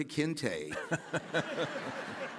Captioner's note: laughs; audience laughs